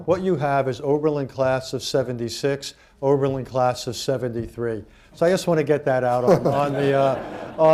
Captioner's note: laughter